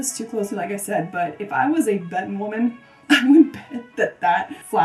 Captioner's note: chuckles